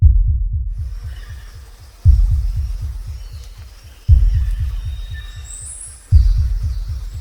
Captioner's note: birds chirping; bugs buzzing